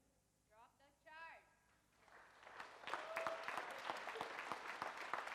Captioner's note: audience applauds